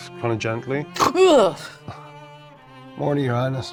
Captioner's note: snorting